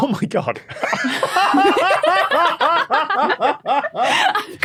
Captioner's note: guests laughing